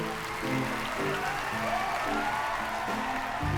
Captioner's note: cheering and applause